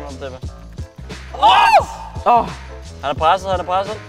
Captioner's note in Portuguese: Gritando